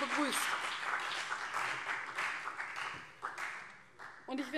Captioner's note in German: Beifall CDU und vereinzelt BÜNDNIS 90/DIE GRÜNEN